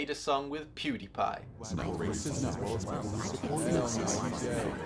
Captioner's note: crowd murmuring